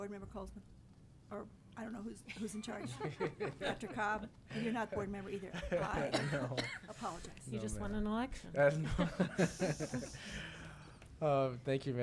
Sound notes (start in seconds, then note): 2.4 board members laughing; 6.1 laughs; 8.8 board members laughing